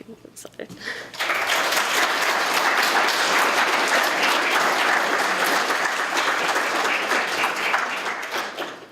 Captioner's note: applause